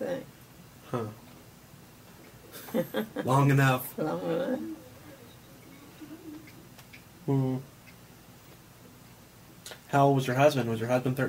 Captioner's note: laughs